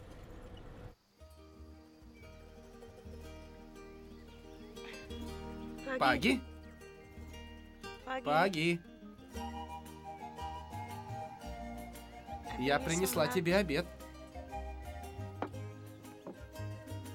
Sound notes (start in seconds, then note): 0.1 rattling continues; 1.6 birds chirping